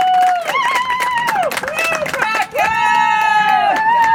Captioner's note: audience applauds